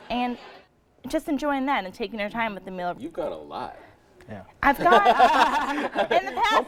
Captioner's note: laughing